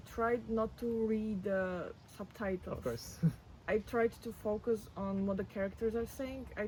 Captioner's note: laughs